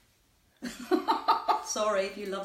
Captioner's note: laughs